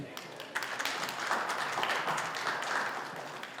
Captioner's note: applause